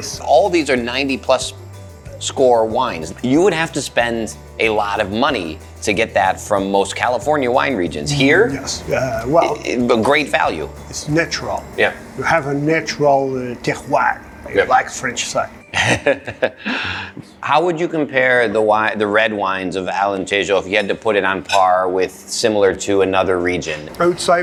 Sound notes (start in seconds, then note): 13.9 speaking in foreign language; 15.6 laughs